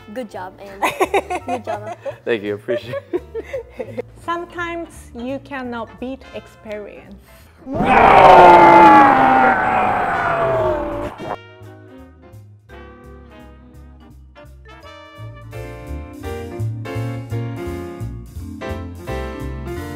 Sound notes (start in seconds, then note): 0.8 laughs; 2.6 laughing; 11.4 lively jazz music